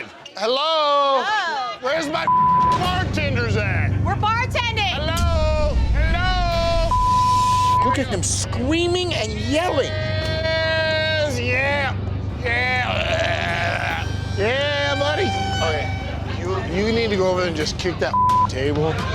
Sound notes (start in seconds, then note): 2.2 beep; 6.6 beep; 10.1 yells loudly; 12.8 grunts loudly; 18.1 beep